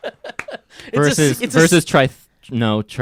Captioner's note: laughing; clapping